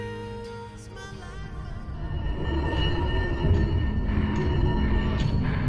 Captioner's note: footsteps tapping and chain rattling